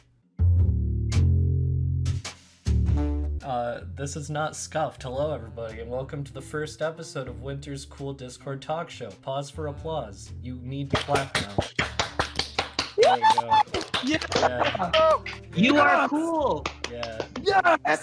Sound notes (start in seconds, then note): 0.1 chilled jazz music; 10.9 clapping; 13.0 cheering